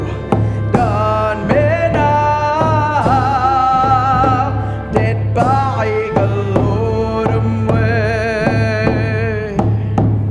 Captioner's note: In Mi’kmaq